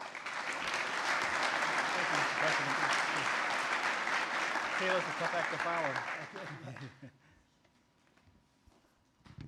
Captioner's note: applause